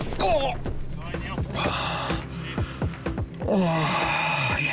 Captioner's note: groaning